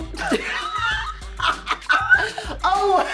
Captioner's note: Suzy laughs